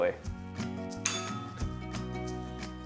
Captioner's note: bell rings